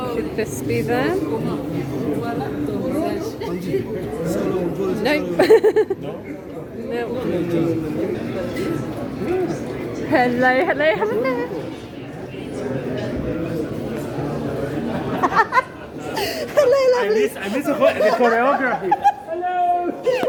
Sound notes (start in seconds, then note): 14.9 laughing